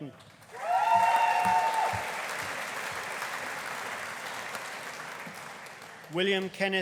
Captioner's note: audience applauding; audience cheering